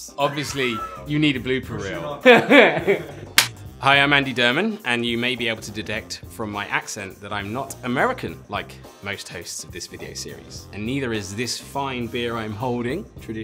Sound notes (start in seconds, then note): 2.2 laughs